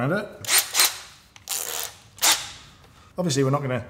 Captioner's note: drill motor whirls